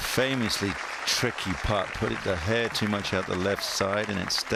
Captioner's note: applause